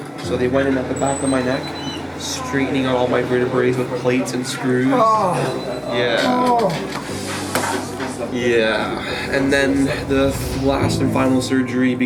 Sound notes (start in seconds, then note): 6.2 groans